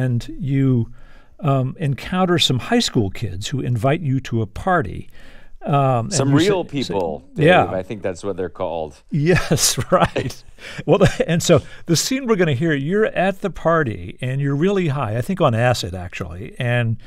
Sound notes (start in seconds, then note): 9.2 laughter